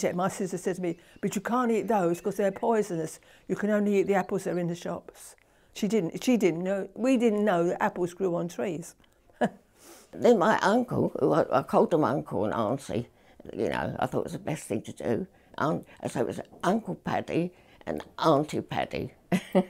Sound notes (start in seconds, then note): 9.3 laughing